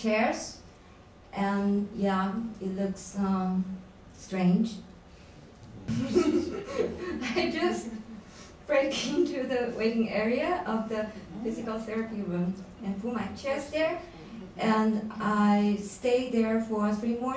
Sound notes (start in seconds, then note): 5.8 laughs